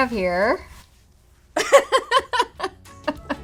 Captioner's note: laugh